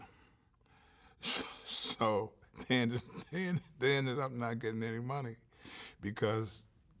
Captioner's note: chuckles